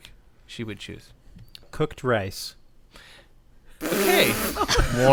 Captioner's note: snort laughter